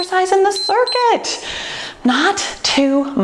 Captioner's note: timer beeps